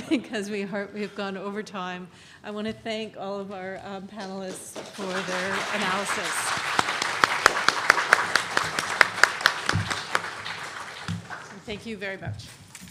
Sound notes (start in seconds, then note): 0.0 laughs; 6.4 audience applauds